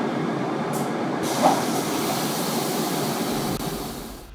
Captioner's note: opening doors